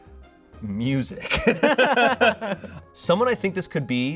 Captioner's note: laughs